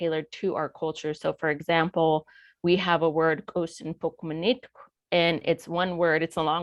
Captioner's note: speaking foreign language